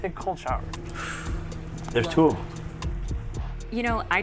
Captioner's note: chuckling